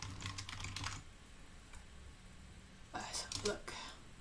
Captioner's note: keyboard clicking